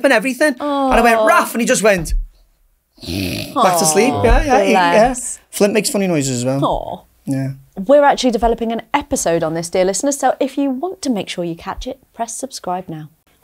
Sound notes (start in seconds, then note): 3.0 snores